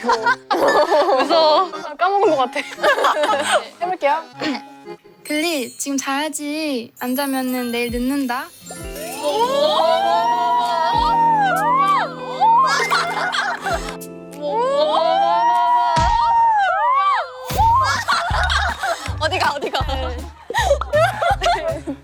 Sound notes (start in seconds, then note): 16.0 thud; 17.5 thud